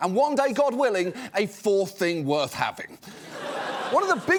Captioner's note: laughter